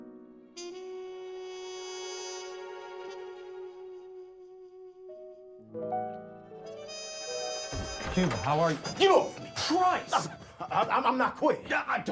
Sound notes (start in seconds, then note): 7.3 door opens